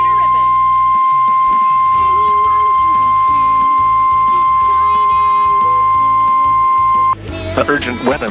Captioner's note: beep Noise Playing